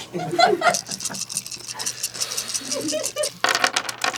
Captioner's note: crunchy chewing; nuts audibly piling in his mouth; continued nut rattling